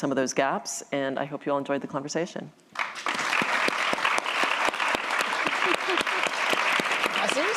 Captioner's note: applause